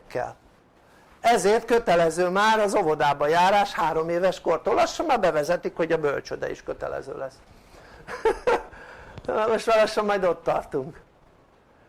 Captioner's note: laughter